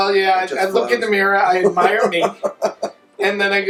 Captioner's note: laughing